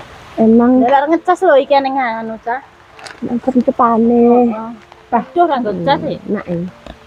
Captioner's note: chatting